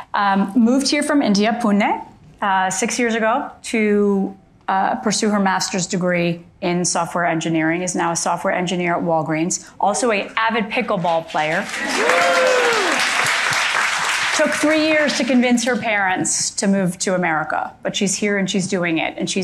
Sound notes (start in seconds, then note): 11.6 audience applauding and cheering